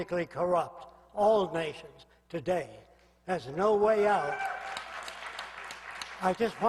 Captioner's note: applause